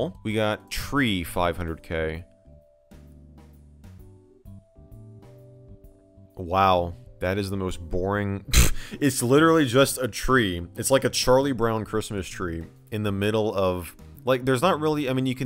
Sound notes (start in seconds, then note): 8.4 scoffs